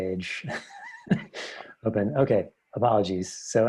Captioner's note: laughs